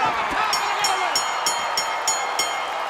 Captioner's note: crowd cheering; bell ringing